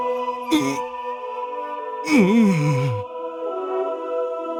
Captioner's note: shamed grunt